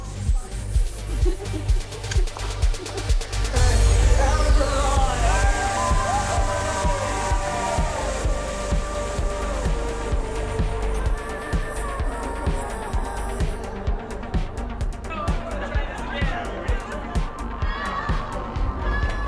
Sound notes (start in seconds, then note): 4.8 cheers